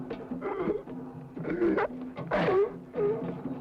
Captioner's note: groaning